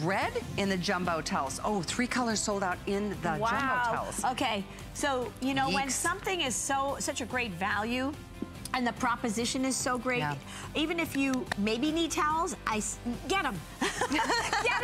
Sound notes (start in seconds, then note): 13.8 laughter